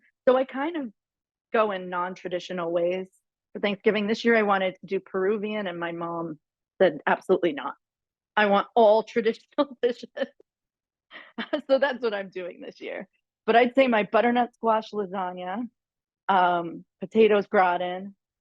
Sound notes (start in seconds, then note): 11.0 laughs